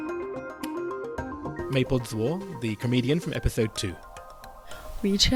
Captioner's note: voiceover